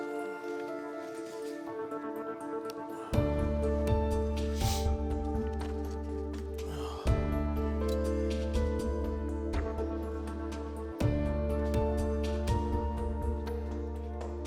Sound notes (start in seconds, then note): 6.6 sighs